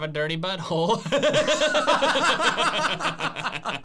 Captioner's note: laughing